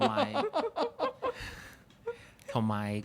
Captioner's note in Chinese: 眾人笑